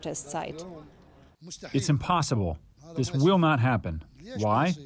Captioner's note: through translator